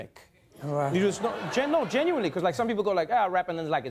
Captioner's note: laughter